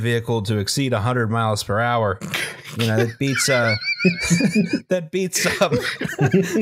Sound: all cracking up now; overtaken by laughter

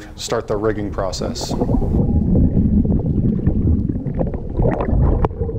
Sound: water gurgling

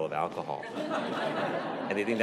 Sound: laughter

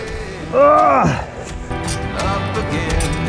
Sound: groans

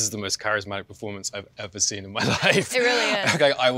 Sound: laughs

